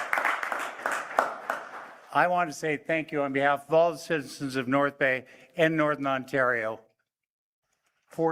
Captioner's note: applause